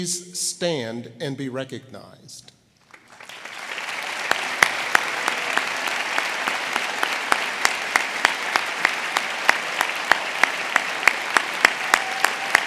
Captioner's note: applause